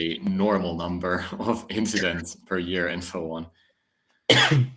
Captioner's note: chuckles